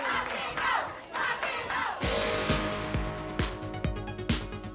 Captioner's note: crowd chants: "rock 'n' roll"